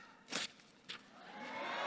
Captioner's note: paper swishes; audience cheering and clapping